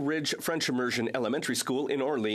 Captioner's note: speaking French